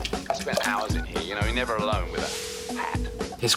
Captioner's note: phone rings